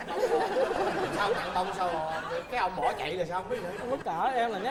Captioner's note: laughing